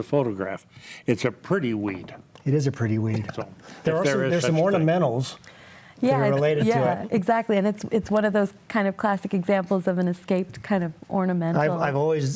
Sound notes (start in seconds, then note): 6.4 chuckles